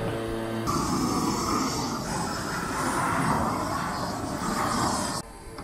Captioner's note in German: brennerrauschen